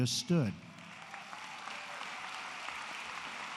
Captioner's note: applause